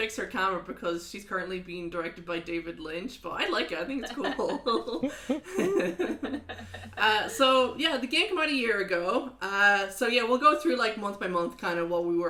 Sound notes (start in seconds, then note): 6.5 laughs